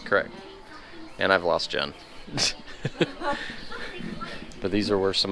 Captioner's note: laughing